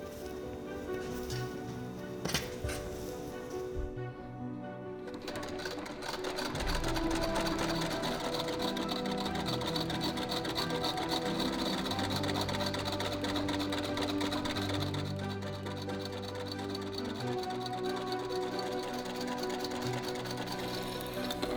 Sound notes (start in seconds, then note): 0.1 mellow music continues; 5.5 sewing machine rattling